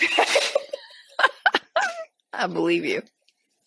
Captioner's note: both laughing